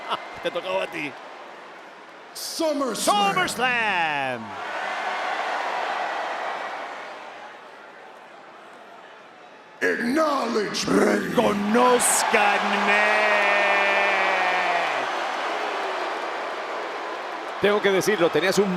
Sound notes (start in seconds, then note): 0.6 laugh; 4.2 applause; 14.9 applause